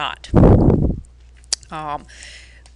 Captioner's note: air blowing